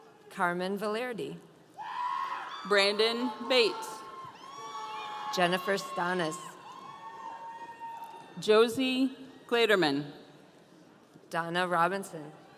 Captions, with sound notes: - Carmen Velerady. (audience cheering) - Brandon Bates. (audience cheering) - Jennifer Stanis. - Josie Gradermann. - Donna Robinson.